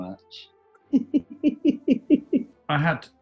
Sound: giggling

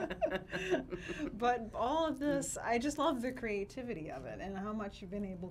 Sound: laughs

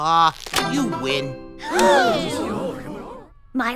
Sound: hushed gasps

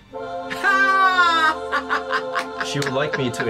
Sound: angelic music; laughs

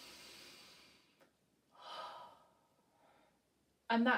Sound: exhales; inhales

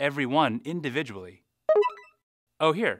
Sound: phone chimes

